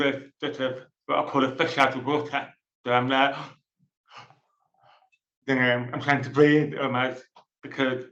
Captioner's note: gasp